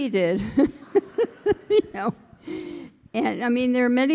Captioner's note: all laughing